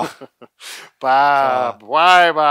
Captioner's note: laughs